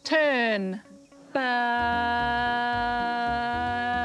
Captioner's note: none